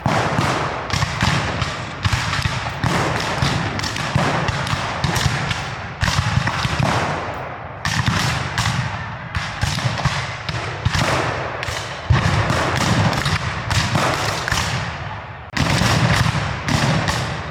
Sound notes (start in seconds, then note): 8.3 guns fire